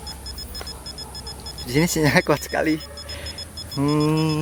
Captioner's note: chuckles